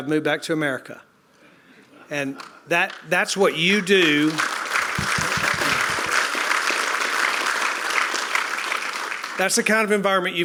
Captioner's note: applause